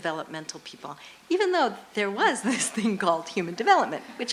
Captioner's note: laughs